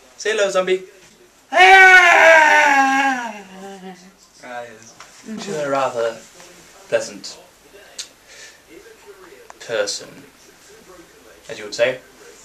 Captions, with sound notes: Say 'hello,' Zombie. [Groan] She's a rather pleasant... ......person. As you would say.